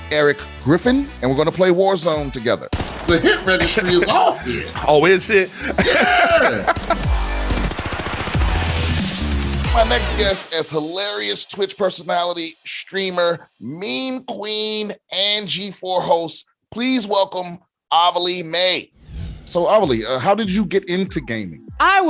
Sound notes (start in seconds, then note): 2.7 bullets popping; 5.8 laughing; 6.3 bullets popping; 7.4 energetic music; 19.0 air whooshing